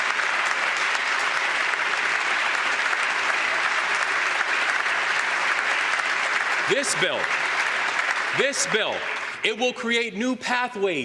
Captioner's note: applause